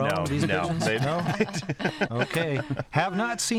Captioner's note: laughs